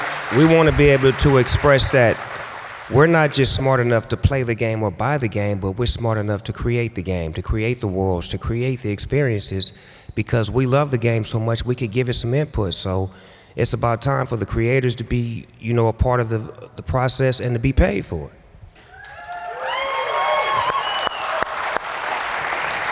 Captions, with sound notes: We want to be able to express that we're not just smart enough to play the game or buy the game, but we're smart enough to create the game, to create the worlds, to create the experiences. Because we love the game so much, we could give it some input. So it's about time for the creators to be a part of the process and to be paid for it. [APPLAUSE, CHEERS]